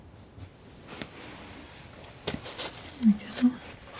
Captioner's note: scratching